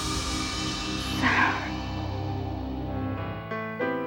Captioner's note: suspenseful music; sighs; solemn music